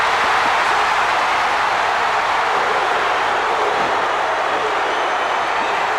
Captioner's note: crowd cheers; crowd's roar drowns out commentary